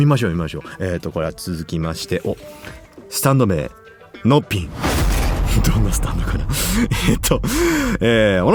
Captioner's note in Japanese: 笑い